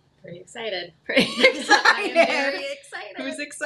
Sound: laughs

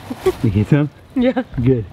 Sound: laughs

